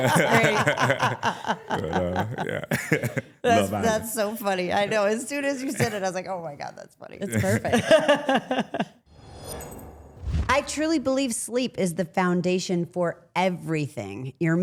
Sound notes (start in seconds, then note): 0.0 laughs; 7.2 laughing; 9.1 logo whooshing